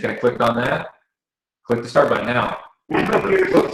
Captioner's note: video sound starts playing